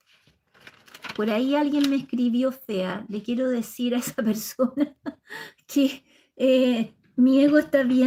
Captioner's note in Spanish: risas